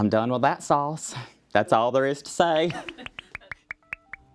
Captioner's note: laughs